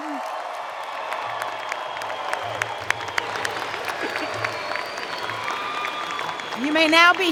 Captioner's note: cheering and Applause